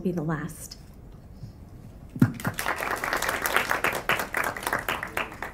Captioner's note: applause